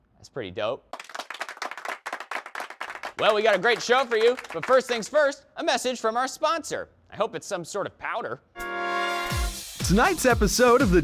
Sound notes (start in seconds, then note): 0.9 audience clapping